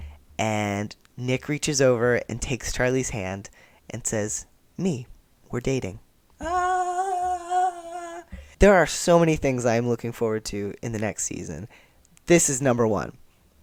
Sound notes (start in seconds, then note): 6.4 general queer joy sounds